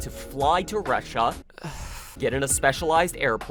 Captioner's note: deeper sigh